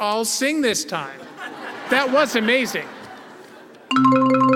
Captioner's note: laugh